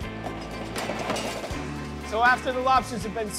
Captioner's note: lobsters clattering